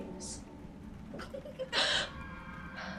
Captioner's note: child's laugh